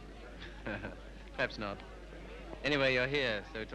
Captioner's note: chuckles